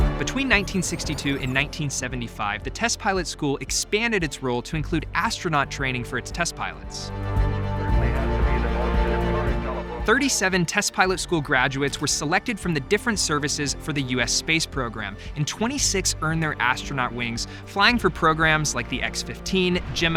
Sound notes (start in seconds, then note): 0.0 intense music; 7.3 dramatic music; 9.6 speaks faintly